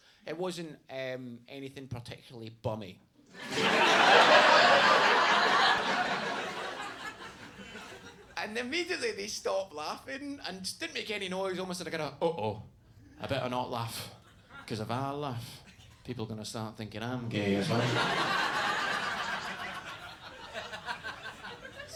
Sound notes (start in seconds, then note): 3.3 audience laughs; 17.3 audience laughs